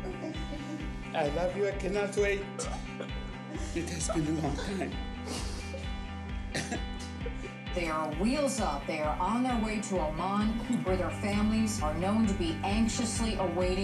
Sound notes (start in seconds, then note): 6.1 crying